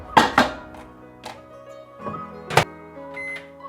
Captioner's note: container clatters; microwave beeps